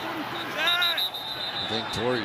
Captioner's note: whistle